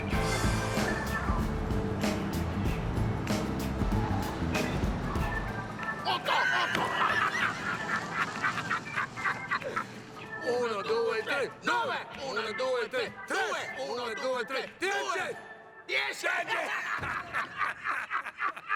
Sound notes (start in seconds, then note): 6.1 laughing; 10.2 shouting in foreign language; 16.4 laughing